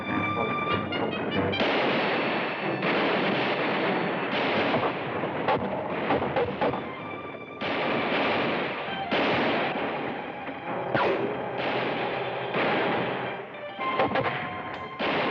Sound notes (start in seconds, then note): 1.2 gunshots